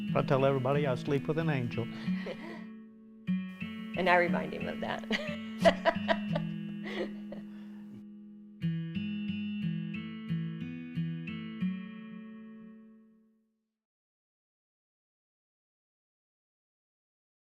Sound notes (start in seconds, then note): 2.0 laughs; 5.1 laughs; 8.7 light music